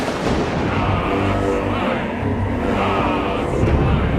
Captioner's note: lighting Strikes; Cult chanting